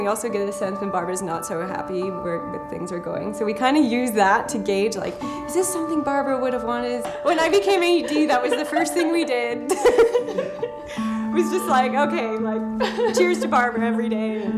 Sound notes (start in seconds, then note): 9.5 laughing